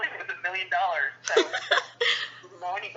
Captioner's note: laughter